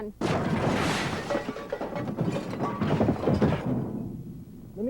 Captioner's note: crash noises